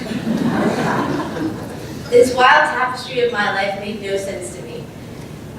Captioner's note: laugh